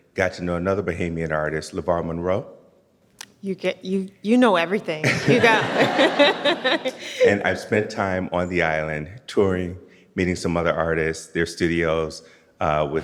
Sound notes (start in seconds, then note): 5.0 audience laughs